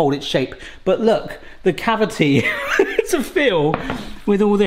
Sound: laughs

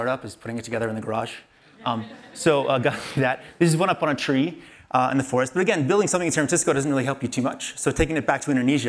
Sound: laughter

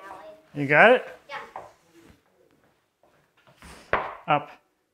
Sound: none

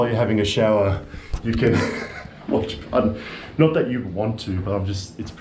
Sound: laughs

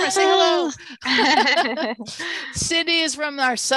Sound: laughter

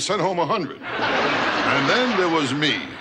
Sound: audience laughter

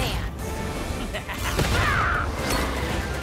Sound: Dr. Deep chuckles, grunts

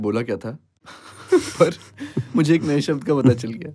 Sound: both laughing

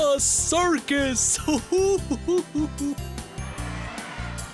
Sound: chuckles

